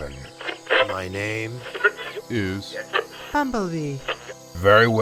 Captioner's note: radio